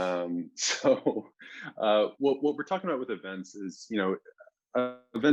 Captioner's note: chuckles